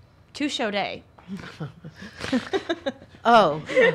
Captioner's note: laughs